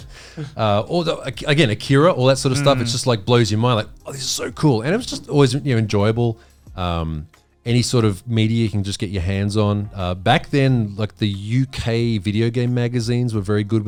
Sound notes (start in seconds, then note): 5.0 all laughing